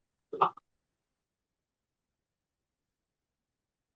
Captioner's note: audio cuts out